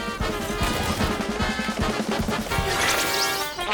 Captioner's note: gunfire